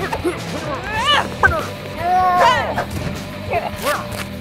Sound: screaming

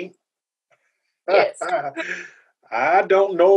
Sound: laughter

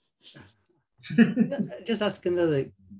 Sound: laughs

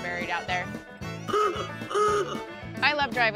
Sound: horn blowing

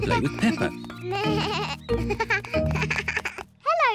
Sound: bleating

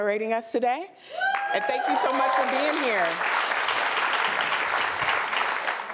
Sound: applause

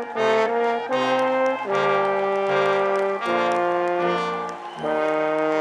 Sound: audience applauding

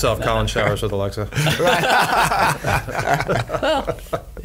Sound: all laugh

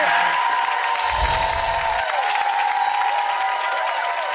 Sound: audience applauds

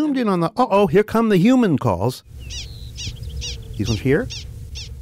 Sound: prairie dog chirping

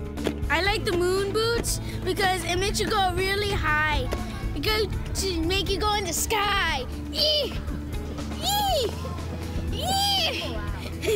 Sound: laughs

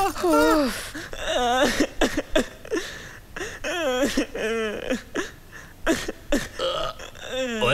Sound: sobbing

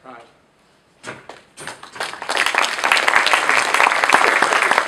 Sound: people applauding

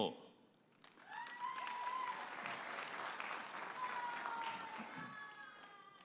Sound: audience applauding and cheering

